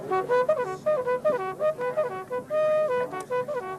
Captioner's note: horn trumpeting